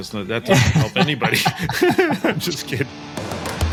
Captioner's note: laugh